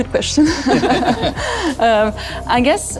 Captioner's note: all three of them laugh